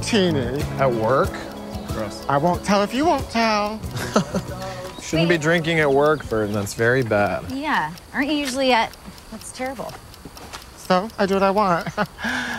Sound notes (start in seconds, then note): 3.9 chuckle